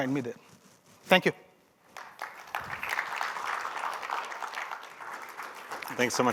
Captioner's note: applause